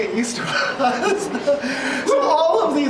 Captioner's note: laughing